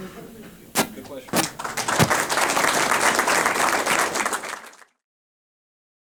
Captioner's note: audience applause